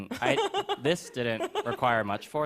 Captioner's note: laughs